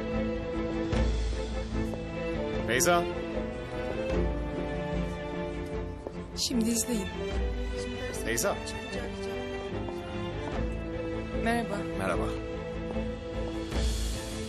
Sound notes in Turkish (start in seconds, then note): none